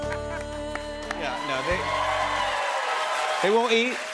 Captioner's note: cheers and applause